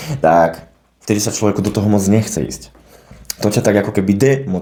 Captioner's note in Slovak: smrkanie